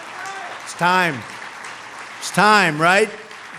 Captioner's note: applause